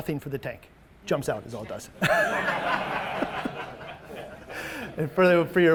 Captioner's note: all laughing